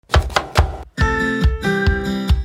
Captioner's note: upbeat music; knife tapping